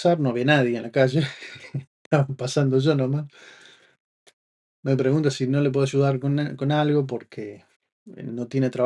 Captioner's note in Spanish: risas